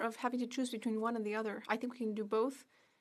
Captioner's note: speaking French